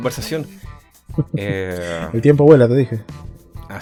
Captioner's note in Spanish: risas